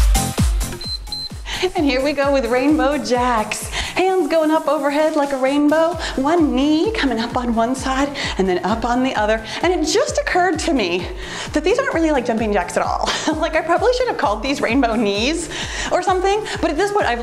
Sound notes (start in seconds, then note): 0.7 timer beeps